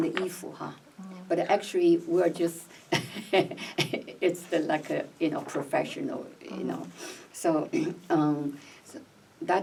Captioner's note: laughs